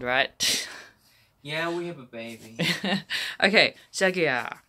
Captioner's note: laughs